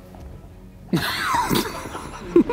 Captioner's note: inevitable corpsing